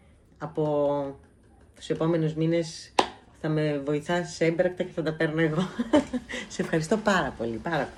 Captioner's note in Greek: γέλια